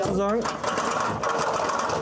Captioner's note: rattling